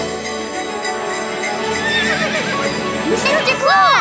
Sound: neighing

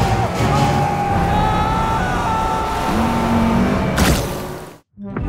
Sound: Hughie screams; boat squelches

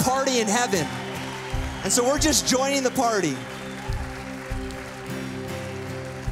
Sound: cheers and applause

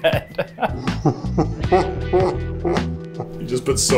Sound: laughing

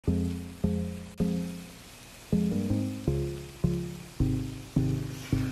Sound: food sizzling; upbeat music

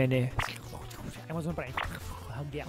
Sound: suspicious whispering

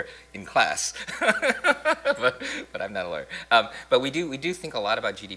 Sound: laughs

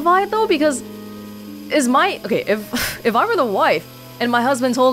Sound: exhales

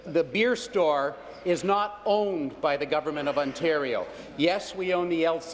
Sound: none

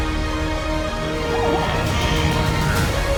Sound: birds screech; heroic music playing

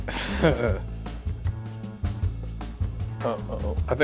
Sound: laughs

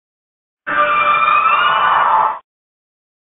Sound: Frosslass sound

